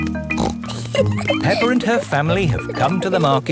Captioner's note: snorts and giggles